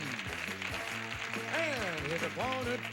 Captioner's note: audience applauding